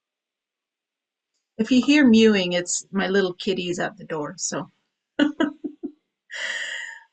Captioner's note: chuckles